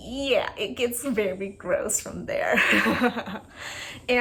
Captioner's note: laugh